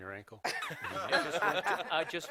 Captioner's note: laughter